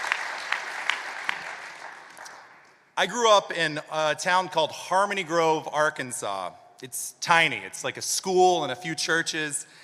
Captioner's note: applause